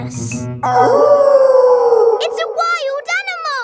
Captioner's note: wolf howling loudly